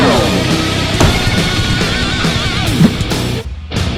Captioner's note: grenade Explodes